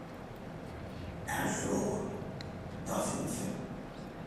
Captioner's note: speaking french